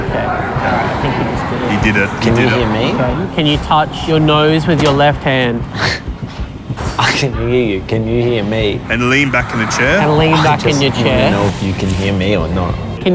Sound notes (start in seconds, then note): 5.6 laughs